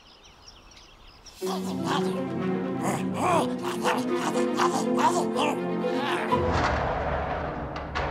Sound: straining, grunting

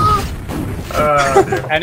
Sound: more laughing; still laughing

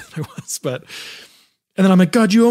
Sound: laughs

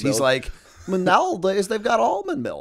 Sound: chuckle

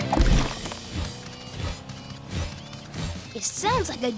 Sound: wings flapping sound

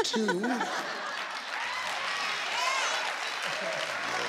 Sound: cheering

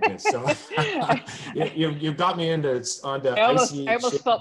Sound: laughs

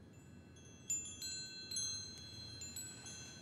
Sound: wind chimes

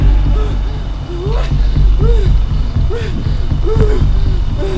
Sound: heavy breathing

